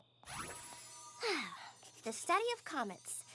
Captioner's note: sighs